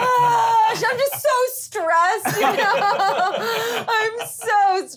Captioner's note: laughing; sighing